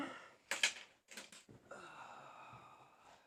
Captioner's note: exhales